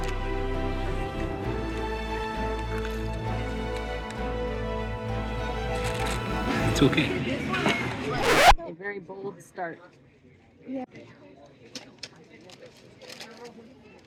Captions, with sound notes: (dramatic music) It's okay. (record scratch) A very bold start.